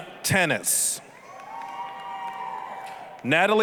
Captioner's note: applause, cheering